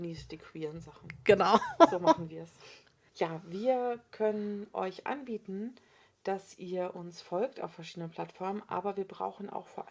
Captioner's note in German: lacht